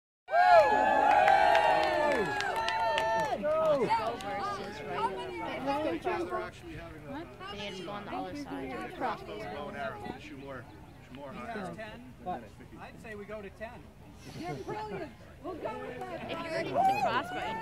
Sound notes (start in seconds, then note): 0.2 crowd cheering